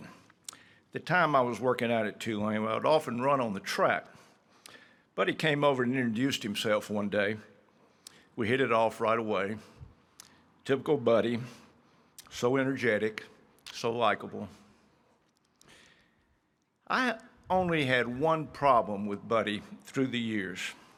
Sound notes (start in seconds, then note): none